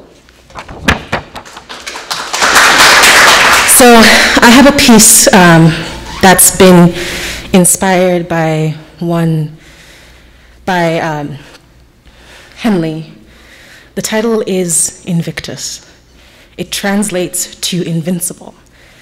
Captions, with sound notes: (audience applauding) - So I have a piece that's been inspired by Henley. The title is "Invictus." It translates to invincible.